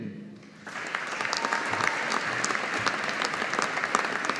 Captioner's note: audience applauding